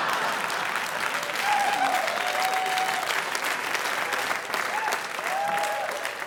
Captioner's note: audience laughing; audience applauding